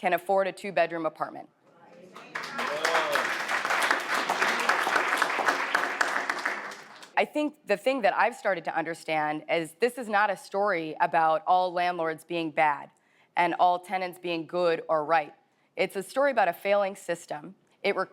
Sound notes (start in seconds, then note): 2.1 audience claps